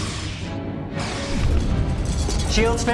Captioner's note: explosion